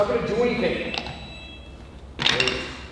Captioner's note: button pressed noise